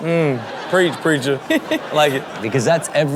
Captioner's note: laughing